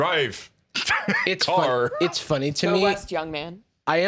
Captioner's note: laughs